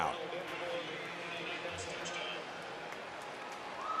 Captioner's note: pa announcement